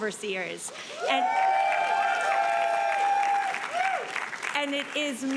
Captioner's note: audience cheering and applauding